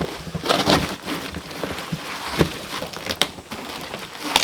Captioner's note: cardboard ripping